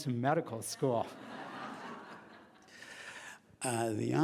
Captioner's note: laughing